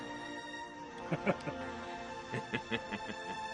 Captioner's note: laughs